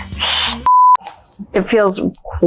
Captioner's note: beeps